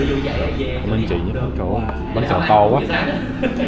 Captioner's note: speaking Vietnamese